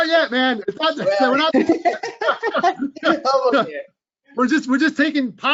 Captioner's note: both laughing